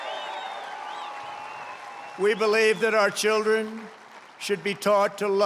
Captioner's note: applause